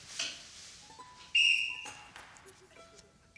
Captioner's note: blows whistle